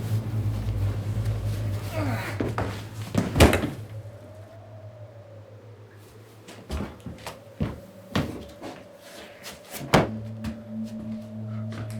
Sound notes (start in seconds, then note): 1.8 grunts; 3.1 thud; 9.8 slam